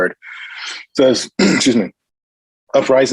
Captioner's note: clears throat